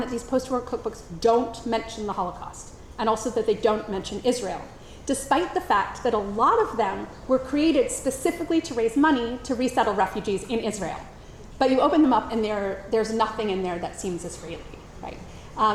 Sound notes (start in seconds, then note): none